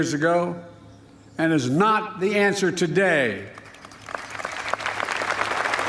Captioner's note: applause